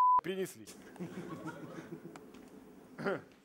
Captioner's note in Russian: тихий смех